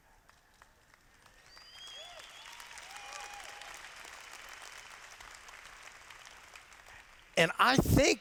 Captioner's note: applause